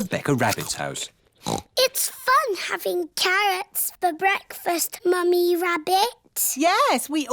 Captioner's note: snorts